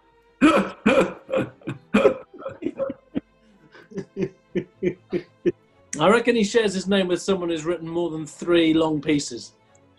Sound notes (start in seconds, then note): 0.4 laughing; 3.7 chuckling